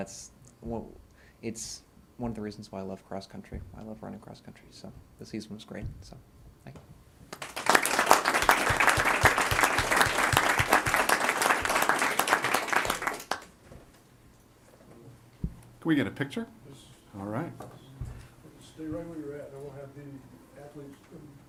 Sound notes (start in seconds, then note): 7.3 applause